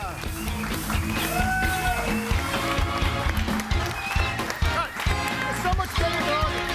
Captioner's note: audience applauding; upbeat big band music